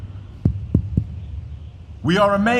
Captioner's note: tapping the microphone